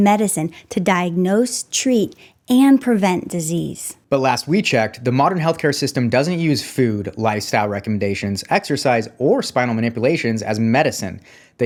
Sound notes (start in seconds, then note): none